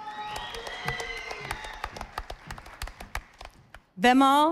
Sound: audience applauding

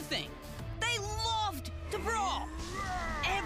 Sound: roaring

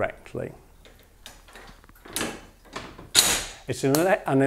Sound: sound of lever moving back

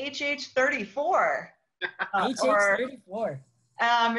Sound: laughs

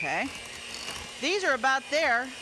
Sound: mixer mixing

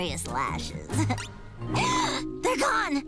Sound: gasping

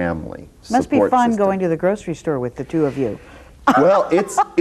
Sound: laughs

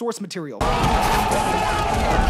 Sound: screaming

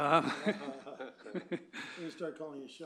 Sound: laughter

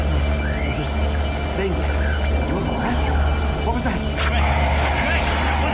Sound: Hell Knight Roars

